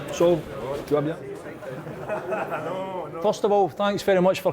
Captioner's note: crowd chattering